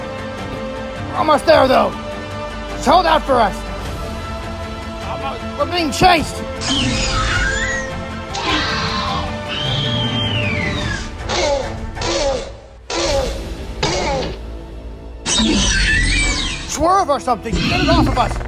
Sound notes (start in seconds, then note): 6.3 velociraptor sound